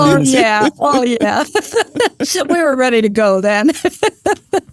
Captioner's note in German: Lacht